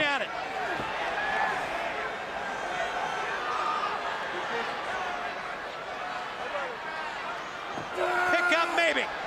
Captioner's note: crowd chatter